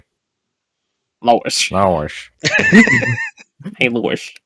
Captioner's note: channeling Peter Griffin